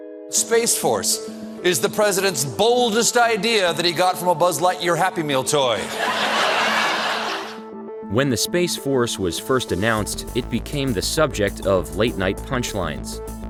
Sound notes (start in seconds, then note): 5.8 audience laughing